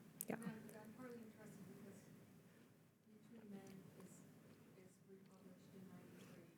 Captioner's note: speaking faintly